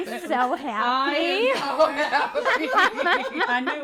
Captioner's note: people laughing